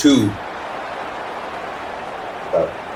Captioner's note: crowd Noises